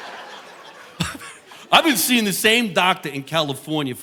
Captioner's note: chuckles; audience laughing